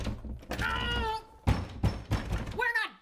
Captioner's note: mother yells